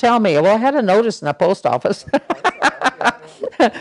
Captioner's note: laughter